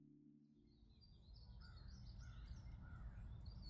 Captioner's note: birds chirping